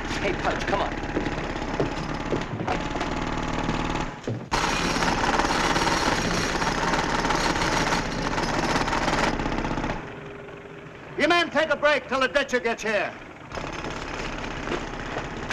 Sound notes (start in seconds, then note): 4.4 machines whirring aggressively